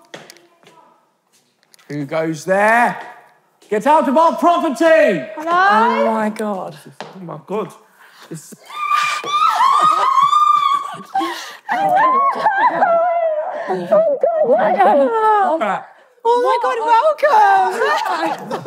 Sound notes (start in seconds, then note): 11.7 squealing